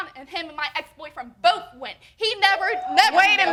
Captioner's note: audience hooting